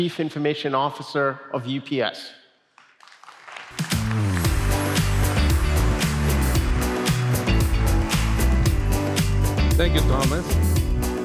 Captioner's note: applause